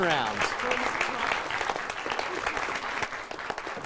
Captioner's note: applause